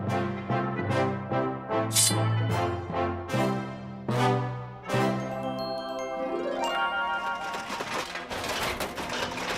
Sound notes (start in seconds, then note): 7.4 metal clanging